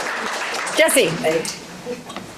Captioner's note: audience applause